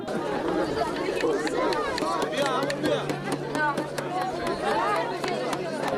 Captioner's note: guests chattering; paintbrush banging